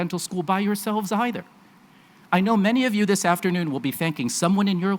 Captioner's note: none